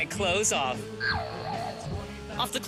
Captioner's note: boinging